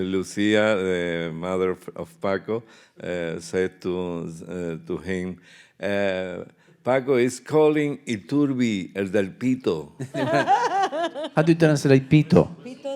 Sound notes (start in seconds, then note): 8.3 speaking in Spanish; 10.1 laughing